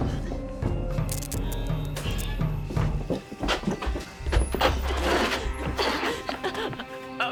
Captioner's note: suspenseful music; light buzzing